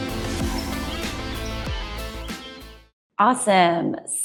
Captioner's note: birds chirping